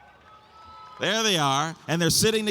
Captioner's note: audience applauds and cheers